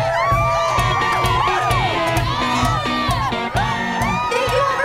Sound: cheering; cheering, music playing

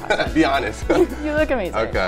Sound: laughs

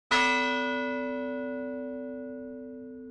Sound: bell rings

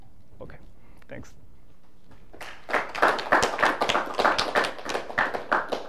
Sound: applause

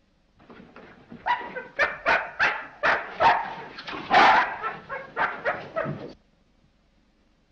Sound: dog barks

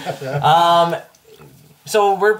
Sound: all laugh

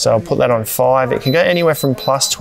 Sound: beeps

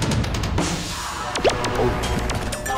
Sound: hiccupping

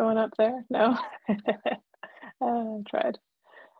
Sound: laughs

